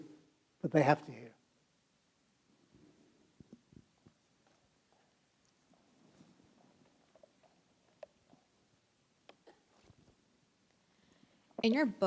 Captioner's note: silence